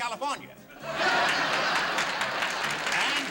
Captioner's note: laughter